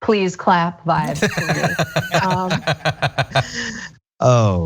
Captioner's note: laugh